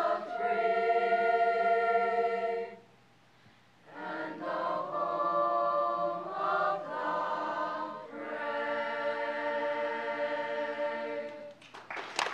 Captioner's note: applause